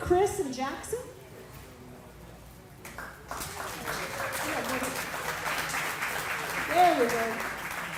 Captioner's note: applause